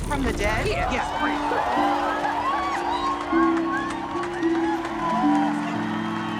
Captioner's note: all cheering